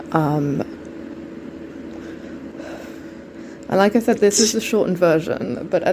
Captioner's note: dramatic exhale